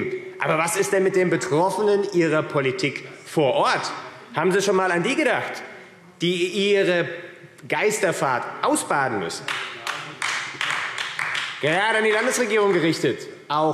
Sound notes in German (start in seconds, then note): 9.4 Beifall AfD